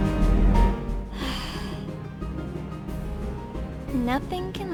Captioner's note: sigh